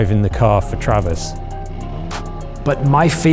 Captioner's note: car engine roaring